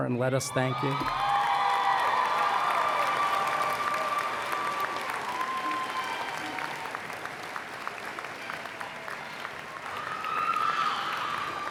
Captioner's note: applause